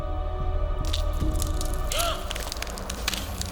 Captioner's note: gasping